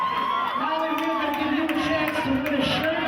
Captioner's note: cheering